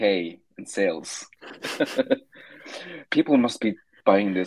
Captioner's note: laughing